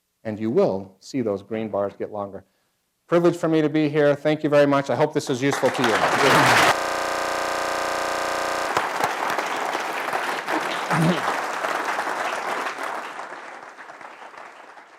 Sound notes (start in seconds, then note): 6.3 applause; 8.6 applause